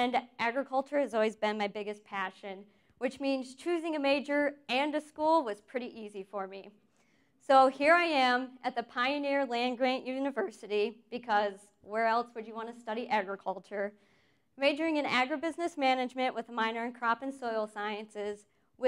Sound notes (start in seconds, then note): none